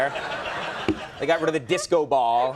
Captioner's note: audience laughs